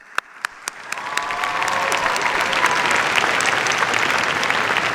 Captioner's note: cheers, applause